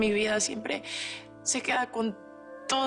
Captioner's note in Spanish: none